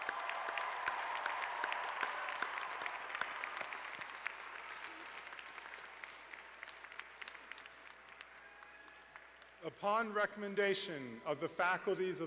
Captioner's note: cheers and applause